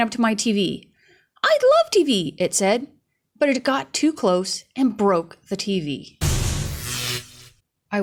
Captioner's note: crash